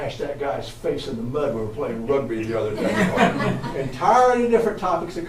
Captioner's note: audience laughs